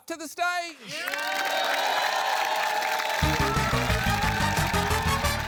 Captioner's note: cheering, applause